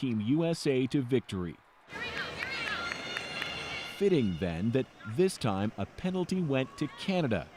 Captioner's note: cheers and Applause